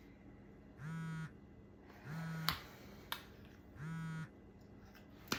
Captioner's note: phone vibrates